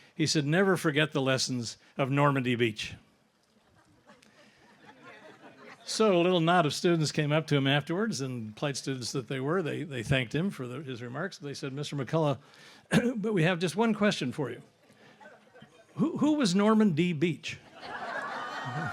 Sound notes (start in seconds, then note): 3.7 audience laughs; 17.6 audience laughs